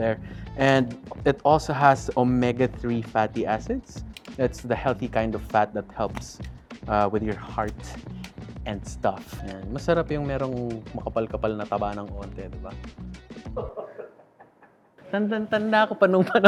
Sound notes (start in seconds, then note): 13.5 laughs